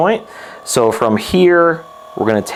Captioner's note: massage gun buzzes